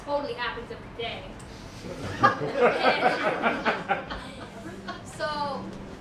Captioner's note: laughter